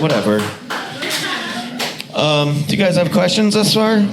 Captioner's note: audience laughs